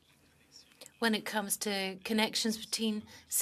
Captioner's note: speaking French